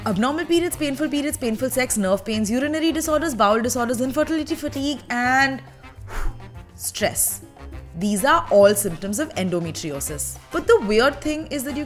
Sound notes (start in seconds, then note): 6.0 whew!